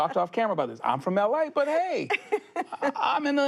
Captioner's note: she laughs